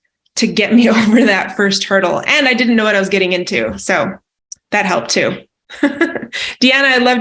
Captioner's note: laughs